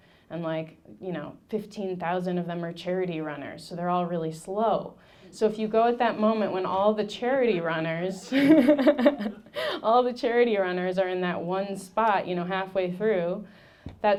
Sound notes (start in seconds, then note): 8.2 laughing; 8.3 audience laughing